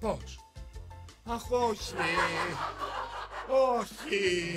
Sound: laughs

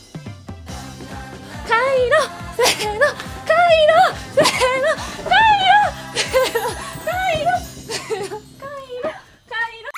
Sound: chanting

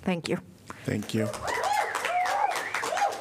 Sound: applause

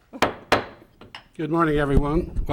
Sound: gavel banging

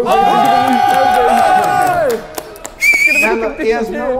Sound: clapping

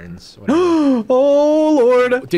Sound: gasps

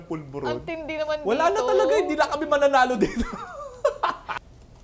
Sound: laughs

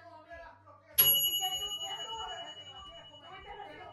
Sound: kitchen timer dings in Spanish

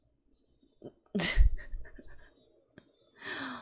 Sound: chuckles

